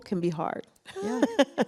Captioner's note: laughs